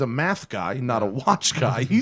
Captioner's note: laughter